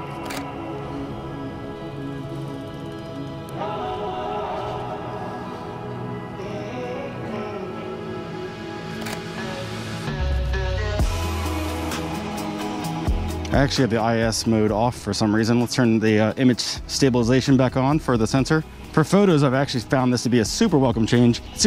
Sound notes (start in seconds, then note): 0.2 shutter closes; 2.9 relaxed hip hop music continues; 9.0 shutter closes